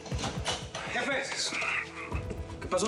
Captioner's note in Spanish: sonido al abrir la puerta